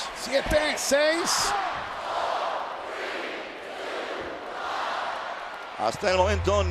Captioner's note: applause